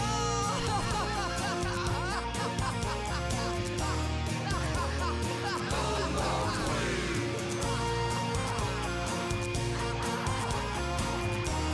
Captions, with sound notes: (Laughing to the beat) (Crowd) No more queen!